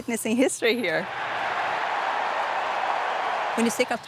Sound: crowd cheering

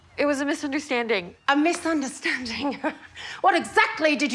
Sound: laughs

